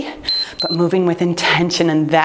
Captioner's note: timer beeps